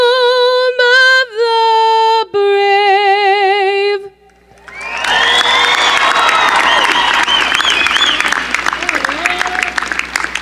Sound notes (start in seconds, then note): 4.6 cheering